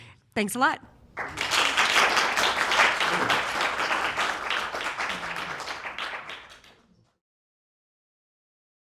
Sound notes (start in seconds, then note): 1.1 audience applauds